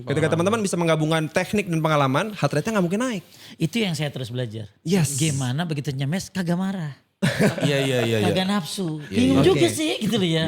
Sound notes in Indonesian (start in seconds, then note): 7.3 tertawa